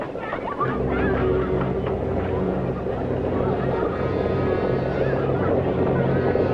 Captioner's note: distant horses approach; suspenseful orchestral music